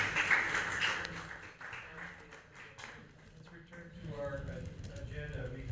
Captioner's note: applause